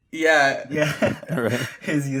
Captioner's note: laughs